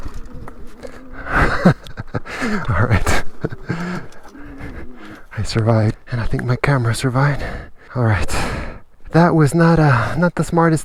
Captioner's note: laughs